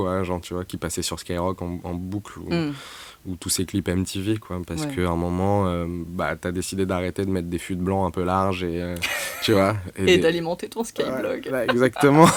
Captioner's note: french radio